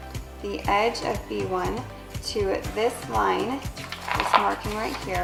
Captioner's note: rustling